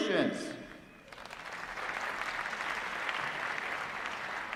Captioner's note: applause